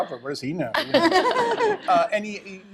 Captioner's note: laughter